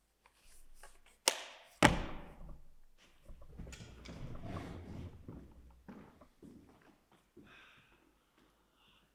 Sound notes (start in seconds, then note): 1.8 clipboard thuds